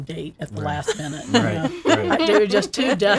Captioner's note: laughing